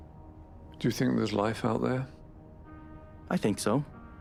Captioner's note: voiceover